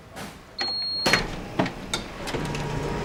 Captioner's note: loud beep; machine whirring